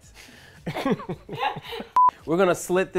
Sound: laughing

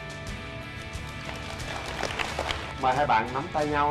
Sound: claps

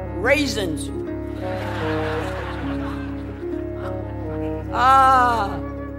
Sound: laughter

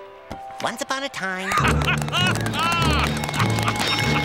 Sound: laughing

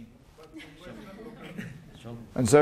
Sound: laughter

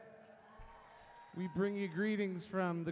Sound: crowd cheers

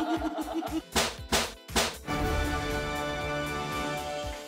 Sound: laughs; straps snapping

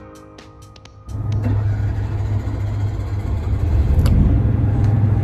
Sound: engine starting

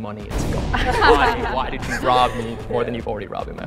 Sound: laughs

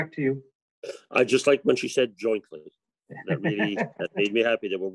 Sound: laughs

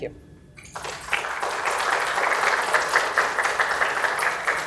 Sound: applause

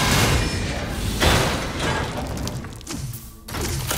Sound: character slamming

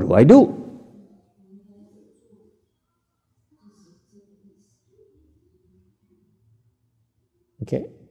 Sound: silence

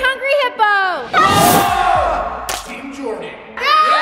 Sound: all shout excitedly

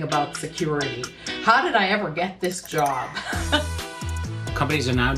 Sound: chuckling

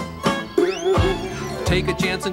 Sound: boing

